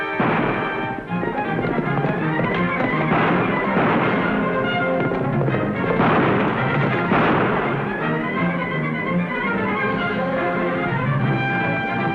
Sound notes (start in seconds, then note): 0.1 gunshot; 2.4 gunshots - tense music